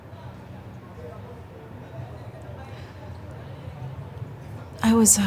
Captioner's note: people chattering